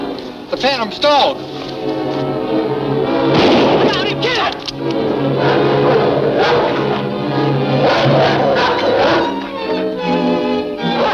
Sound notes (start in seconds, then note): 3.3 gun shooting; 6.2 Guard 2 screaming; 6.2 dog growling